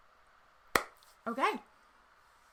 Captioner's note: soft clapping